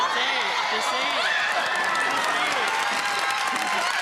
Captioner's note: laughter